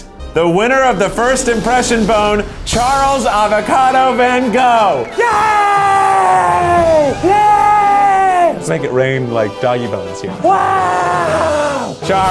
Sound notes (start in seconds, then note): 5.0 cheering